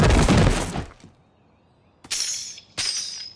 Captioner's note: cowboy boot spurs jingle